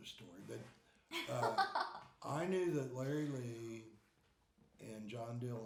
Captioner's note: laughing